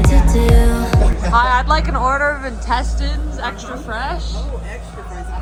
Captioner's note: laughs